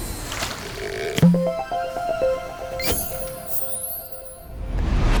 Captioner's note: playful chime